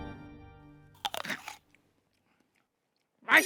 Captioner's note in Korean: 아삭